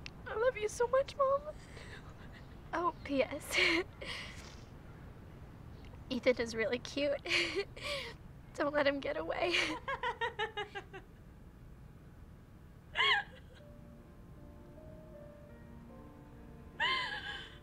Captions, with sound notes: I love you so much mom. Oh P.S. Ethan is really cute. Don't let him get away. (loud laughter) (slow paced music)